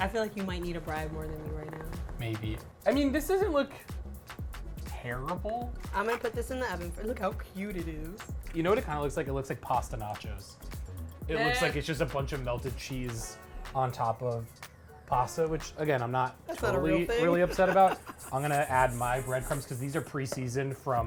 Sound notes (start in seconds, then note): 16.5 laughs; 18.5 bread crumbs rustling